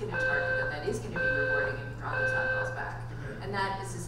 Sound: alarm beeping drowns out speech

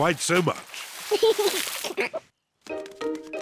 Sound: giggles

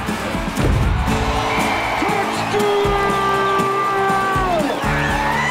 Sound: cheers and applause; cheering

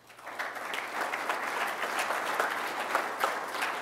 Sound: applause

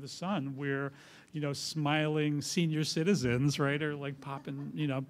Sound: laughter

